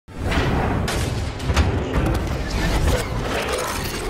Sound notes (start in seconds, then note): 0.9 metal clanging